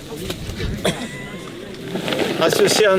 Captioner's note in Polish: śmiech